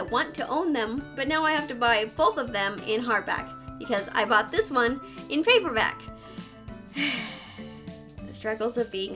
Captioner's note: sigh